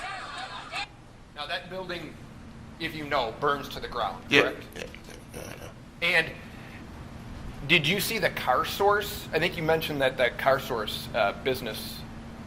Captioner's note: yelling